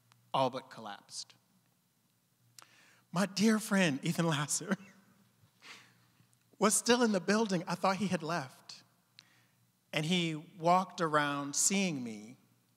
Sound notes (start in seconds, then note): 4.6 chuckling